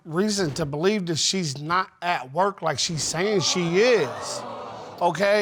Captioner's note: audience exclaiming